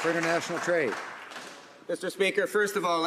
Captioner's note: some Applause